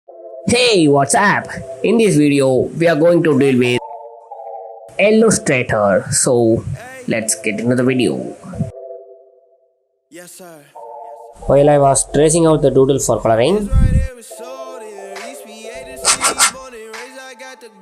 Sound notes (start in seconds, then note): 15.8 paper scratched